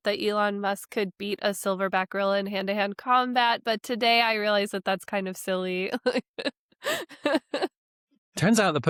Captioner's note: laughs